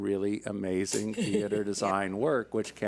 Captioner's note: laughs